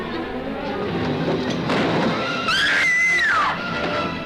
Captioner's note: Elga Screams